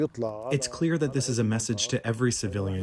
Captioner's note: through translator